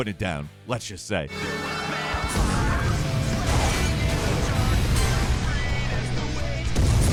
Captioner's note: fast paced music; cars crashing